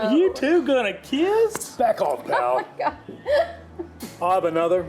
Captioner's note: laughs